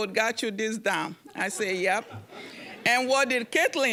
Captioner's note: audience chuckling